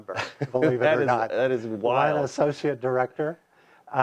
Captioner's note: laughs